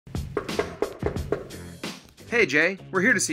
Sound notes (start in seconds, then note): 0.4 soft knock